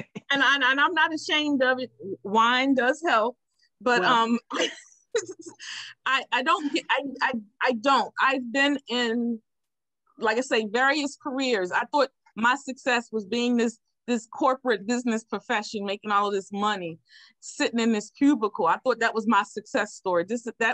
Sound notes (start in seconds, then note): 0.0 laughing; 5.5 laughs